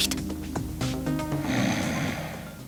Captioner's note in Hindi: खर्राटे लेना